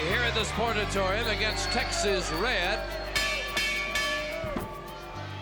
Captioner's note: bell rings